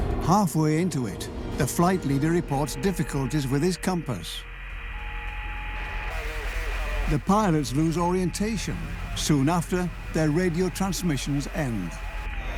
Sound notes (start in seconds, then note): 4.9 radio crackles